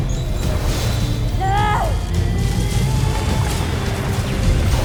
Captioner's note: danaya growls; powerful whoosh-crackle